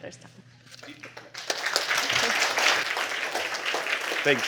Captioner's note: applause